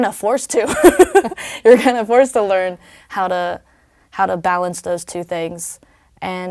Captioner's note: laugh